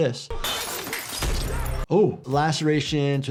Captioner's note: glass smashes